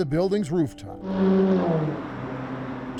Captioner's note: car zooms